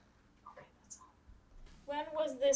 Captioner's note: whispering